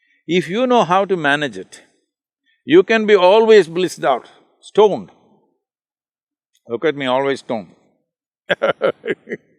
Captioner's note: laughs